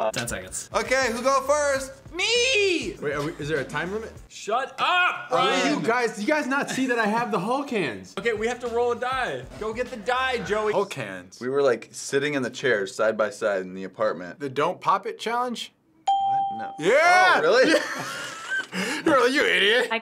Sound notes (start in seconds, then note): 16.0 ding; 17.0 both laugh